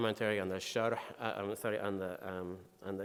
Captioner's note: speaking in foreign language